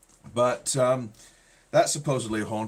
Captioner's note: none